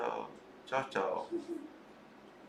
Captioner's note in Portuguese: risos